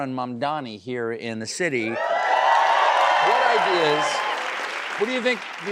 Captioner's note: cheering and applause